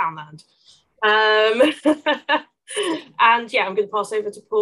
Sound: laughs

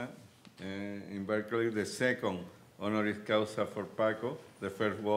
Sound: speaking Spanish

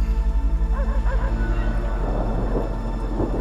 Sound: dog barks

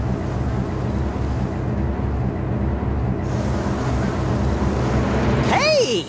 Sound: flies buzzing

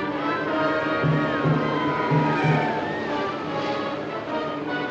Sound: siren Wailing

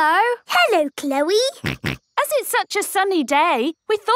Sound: snorting

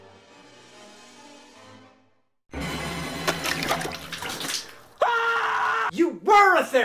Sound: screams

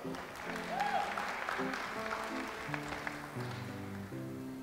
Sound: audience applauds

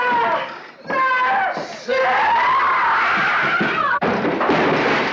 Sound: screams

